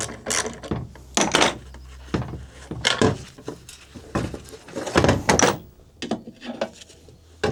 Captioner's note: clanking